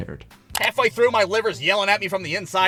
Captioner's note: button clicking